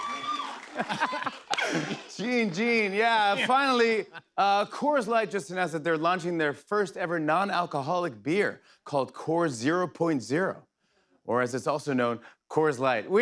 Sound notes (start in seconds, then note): 0.6 laughter